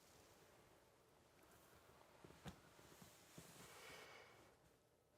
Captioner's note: cloth rustles